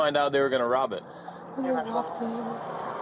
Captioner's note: radio chatter